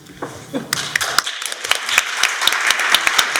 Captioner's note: applause